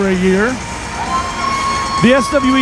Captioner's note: audience cheering